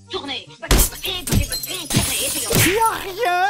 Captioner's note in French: bruits de casse répétés